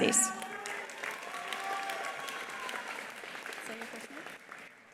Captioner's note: attendees applauding; attendees cheering